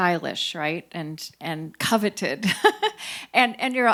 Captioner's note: laughs